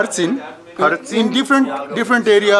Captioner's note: speaking in foreign language